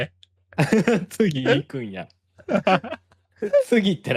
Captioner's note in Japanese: 笑い